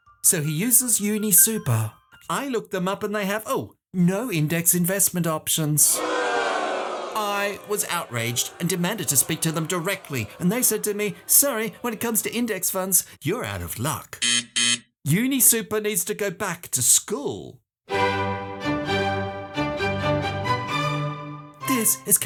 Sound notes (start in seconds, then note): 5.9 crowd boos; 14.2 buzzer; 17.9 classical music